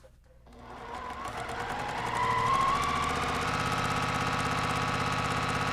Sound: sewing machine whirring

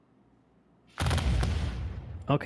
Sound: volley of booming sounds

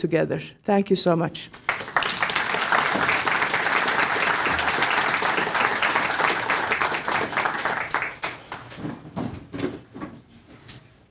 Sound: applause

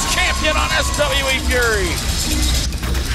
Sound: audience cheering

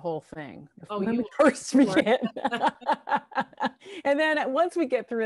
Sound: laughing

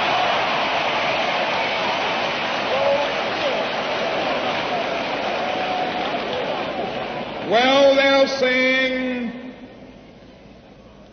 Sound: applause

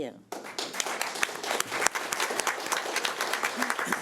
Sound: audience applauding

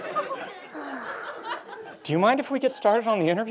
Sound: sighs contentedly

